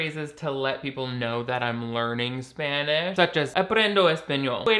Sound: speaks in Spanish

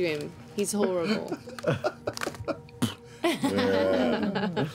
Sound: spits; laughter

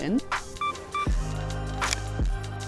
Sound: camera beeping and clicking; bright mellow music

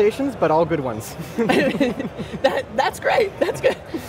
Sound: group laughs

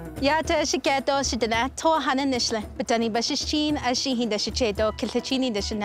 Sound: speaking in Indigenous language

